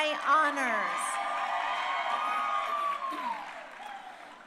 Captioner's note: crowd cheering